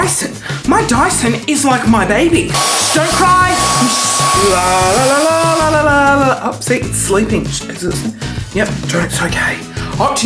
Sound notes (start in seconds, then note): 2.5 buzzing